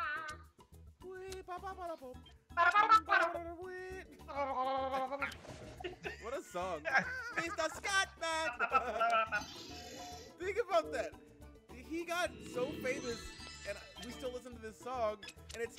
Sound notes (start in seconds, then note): 8.2 laugh